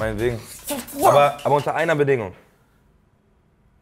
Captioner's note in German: Freudiger Laut